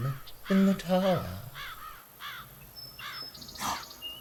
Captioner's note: crows; he gasps